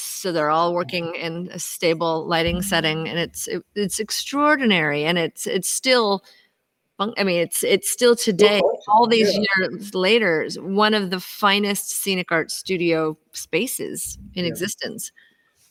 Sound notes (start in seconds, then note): 8.4 static drowns out